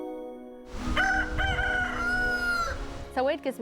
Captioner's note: crowing